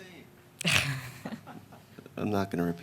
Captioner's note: chuckling